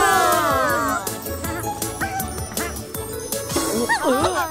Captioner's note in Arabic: صوت مرح